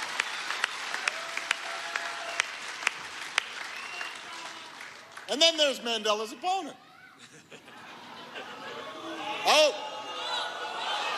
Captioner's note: applause